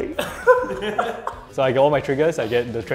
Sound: players laughing

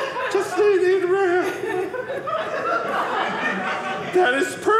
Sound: audience laughing

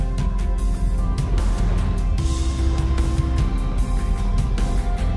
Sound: waves crashing

